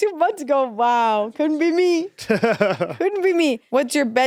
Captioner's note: Eddy laughs